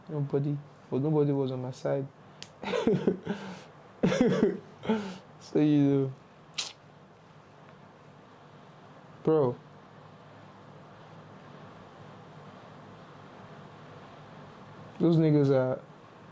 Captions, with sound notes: Nobody because nobody was on my side. (laughing) so you know bro Those niggas are.